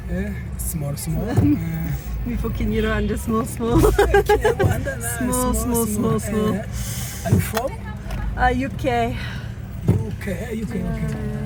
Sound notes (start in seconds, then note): 3.3 laughing